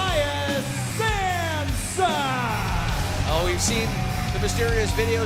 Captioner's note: crowd cheering